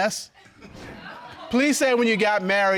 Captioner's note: audience laughing